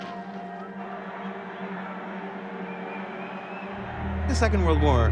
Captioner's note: crowd clamoring